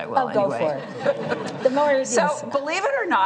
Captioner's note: laughter